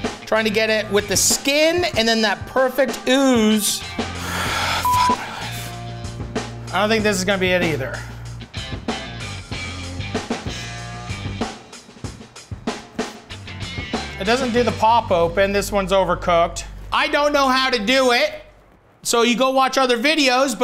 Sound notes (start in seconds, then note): 4.2 sighing